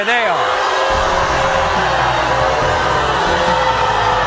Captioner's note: audience booing